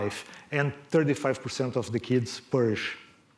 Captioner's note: none